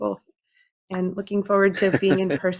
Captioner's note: laughing